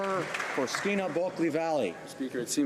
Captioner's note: applause